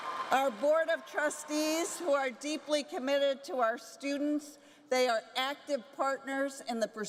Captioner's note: applause